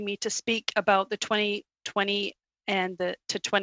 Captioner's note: speaking French